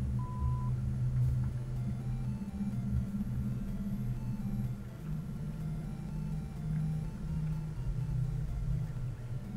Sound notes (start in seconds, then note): 2.0 video game noises